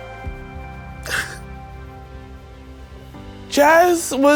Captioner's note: crying